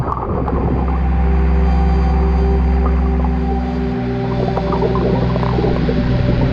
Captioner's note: dramatic music; water splashes